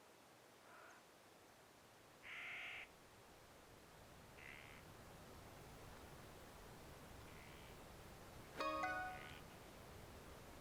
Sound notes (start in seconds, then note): 8.6 phone chimes